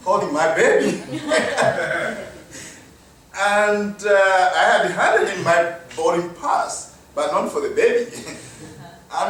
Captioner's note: laughter; chuckles